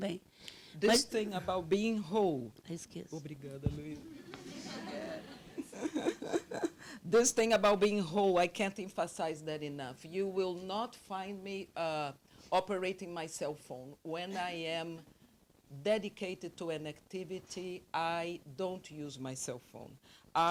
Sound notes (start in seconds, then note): 3.3 translator speaking Portuguese; 4.0 audience laughing